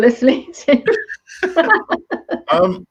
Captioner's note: laughing